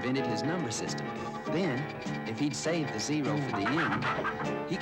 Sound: squawking

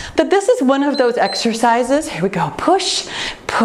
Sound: time beeps

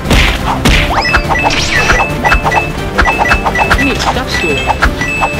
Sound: cartoon beeping

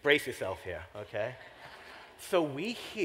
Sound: laughter

